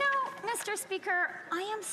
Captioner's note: some Applause